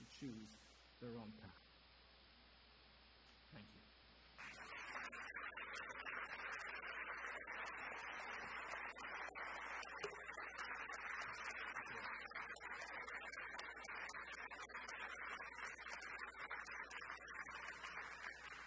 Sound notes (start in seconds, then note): 4.4 audience applause